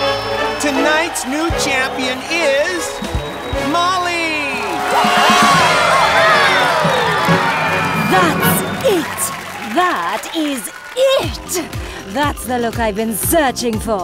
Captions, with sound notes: Tonight's new champion is... Molly! [cheering] That's it, that is it! That's the look I've been searching for.